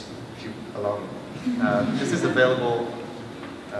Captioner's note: laughter